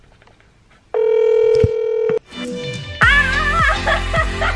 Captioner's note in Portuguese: chamada de celular; grito e risadas